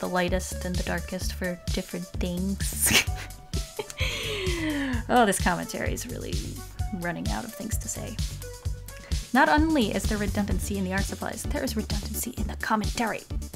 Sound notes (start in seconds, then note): 4.0 deep inhale